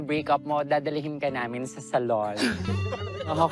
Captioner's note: chuckling